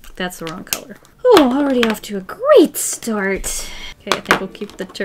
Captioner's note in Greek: Σαρκαστικά